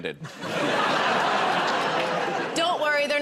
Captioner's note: laughter